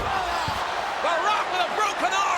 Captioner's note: audience cheers